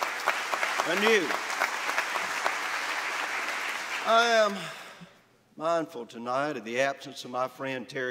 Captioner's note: applause